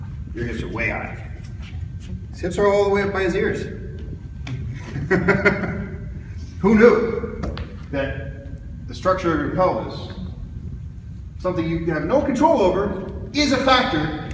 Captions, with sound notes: Your hips are way high. His hips are all the way up by his ears. [laughs] Who knew that the structure of your pelvis, something you have NO CONTROL OVER, is a factor